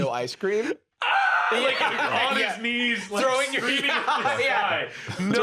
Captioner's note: wails